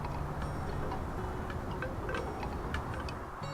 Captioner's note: wooden wind chimes